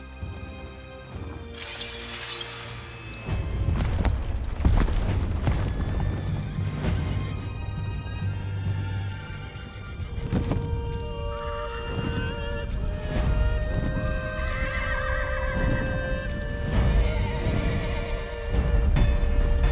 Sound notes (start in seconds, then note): 14.4 horses neighing